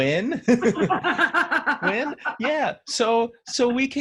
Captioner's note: laughing